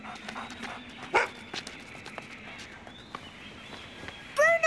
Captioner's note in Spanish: BRUNO Ladra